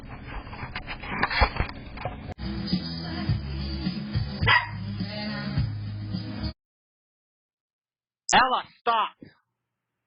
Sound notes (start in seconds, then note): 2.2 Ella barks